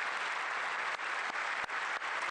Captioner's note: applause